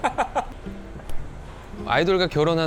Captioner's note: self-slap